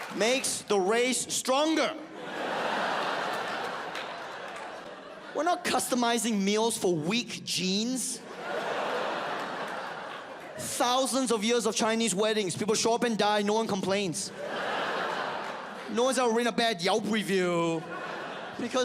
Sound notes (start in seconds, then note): 1.7 audience laughs